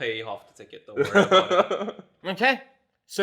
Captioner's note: laughs